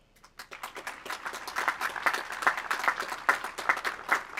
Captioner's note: audience applauds